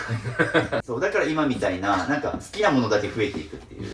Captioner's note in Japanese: 笑い